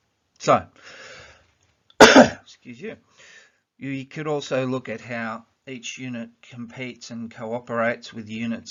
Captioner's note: coughs* - 'scuse you